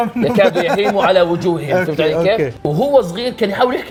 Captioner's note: laughs